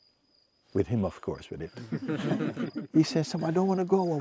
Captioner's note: laughter